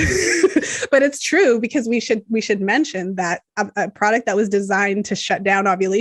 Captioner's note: laughs